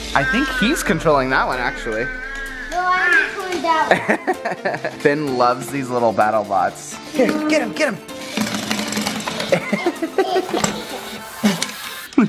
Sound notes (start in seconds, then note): 0.0 shouts of excitement; 3.8 laughing; 9.2 laughing